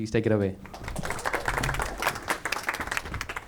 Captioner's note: applause